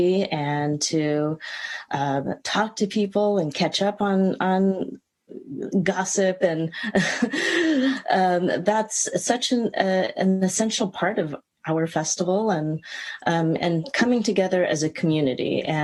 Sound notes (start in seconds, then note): 7.1 chuckle